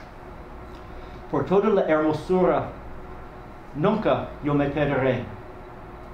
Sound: speaking a foreign language

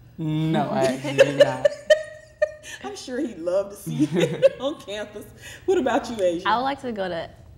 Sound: laughter

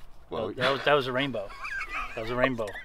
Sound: laughing; laughs

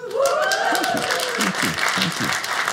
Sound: audience cheers

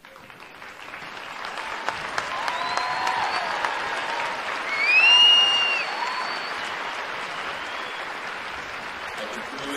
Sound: applause

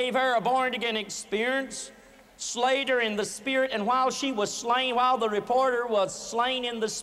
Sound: none

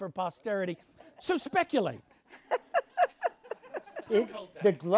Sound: laughs

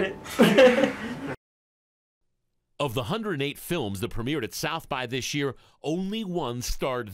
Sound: laughter

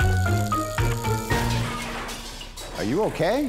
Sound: crash

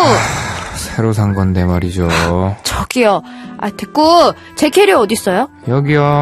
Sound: sighs

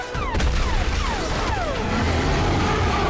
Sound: booming thud; dinosaur roars

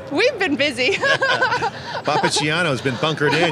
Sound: laughing

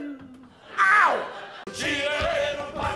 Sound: laughter

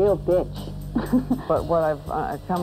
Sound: chuckles

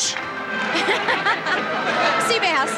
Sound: laughing

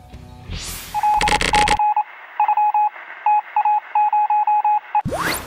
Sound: sound Effects

